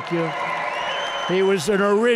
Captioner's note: applause